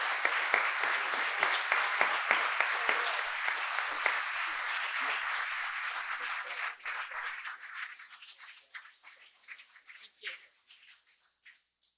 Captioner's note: applause